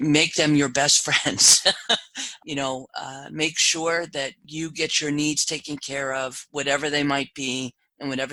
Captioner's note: laugh